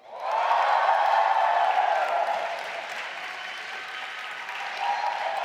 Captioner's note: audience applauding and cheering